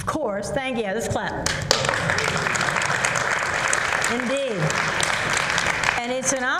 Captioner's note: applause